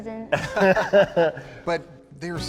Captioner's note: people laughing